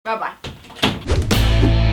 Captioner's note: door closes